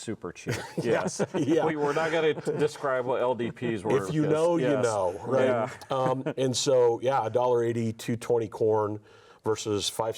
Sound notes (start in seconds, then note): 0.6 laughs; 5.6 laughs